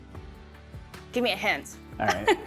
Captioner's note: chuckling